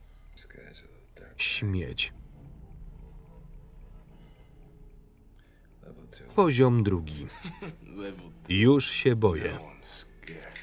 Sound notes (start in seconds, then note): 7.3 laughs